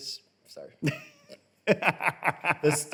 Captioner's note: laughs